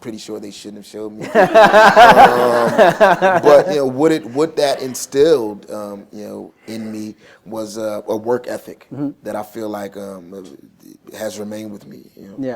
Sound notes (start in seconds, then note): 1.2 laughs